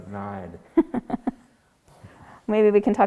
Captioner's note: laughs